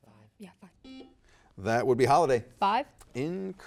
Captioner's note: buzzer beeps